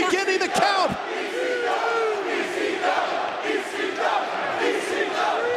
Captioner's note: crowd chants "ECW"